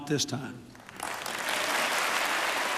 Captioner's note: applause